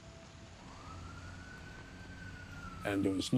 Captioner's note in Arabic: صافرة الإنذار تدوي